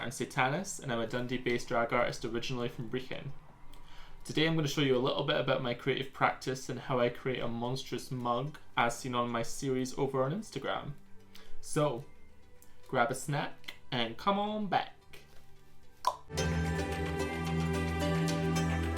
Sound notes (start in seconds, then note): 16.0 tongue clonks; 16.5 soft music